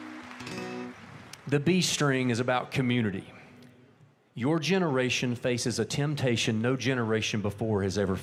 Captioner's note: applause